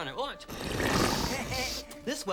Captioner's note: slurps